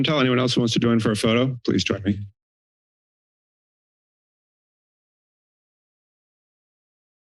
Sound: silence

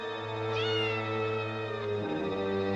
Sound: meowing continues

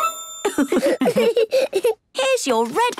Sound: laughs

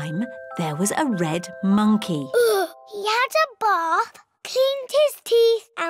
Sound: sighs

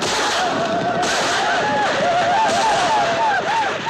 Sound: whooping

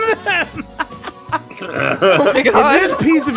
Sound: laughter; laughs

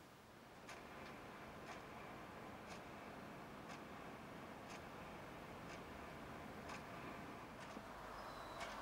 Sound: clock ticking

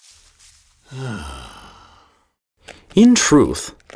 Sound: sighs

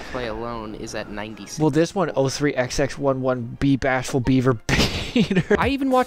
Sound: bust out laughing

